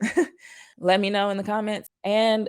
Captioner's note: chuckles